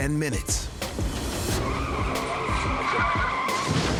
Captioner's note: tires squealing